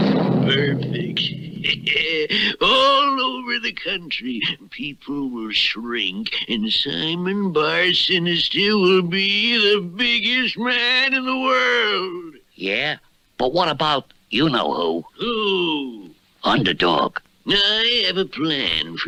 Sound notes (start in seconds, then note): 1.6 Simon Bar Sinister Laughs